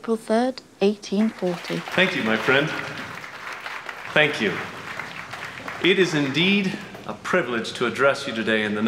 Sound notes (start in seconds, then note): 1.2 crowd applauds